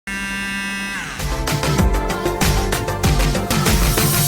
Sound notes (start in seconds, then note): 0.0 buzzzzzz; 1.2 intro Music